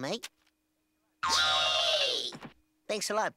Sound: squealing

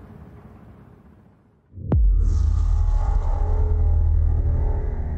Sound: transition sound

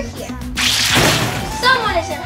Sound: liquid squishes; metal bangs

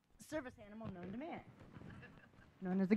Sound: laughing

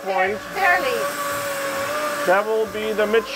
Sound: machinery whirring

